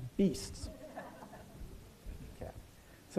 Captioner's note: laughter